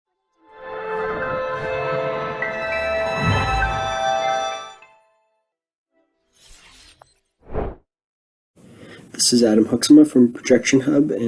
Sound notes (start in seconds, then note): 0.7 upbeat music; 6.4 logo whooshing